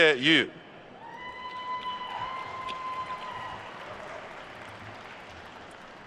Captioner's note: attendees cheering and applauding